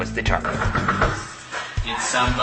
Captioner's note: knocks on Door